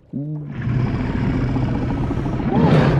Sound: snarling

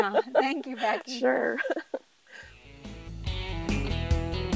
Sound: laughing

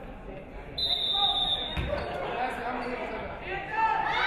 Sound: referee whistles

